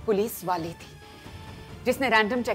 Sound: none

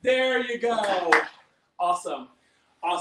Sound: claps

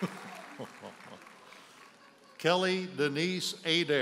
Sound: audience cheers and applauds; chuckles

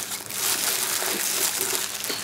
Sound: gloves crackle

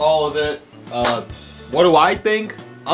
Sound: hands clap

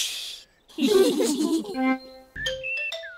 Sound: all laugh; all giggle quietly

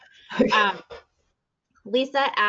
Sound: chuckles

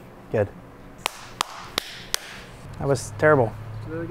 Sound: hands clapping

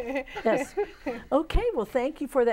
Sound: laughing

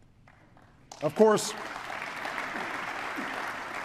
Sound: applause

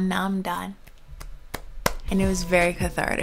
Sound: clapping

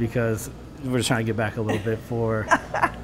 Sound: laughter

